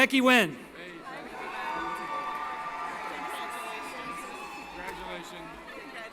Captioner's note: cheering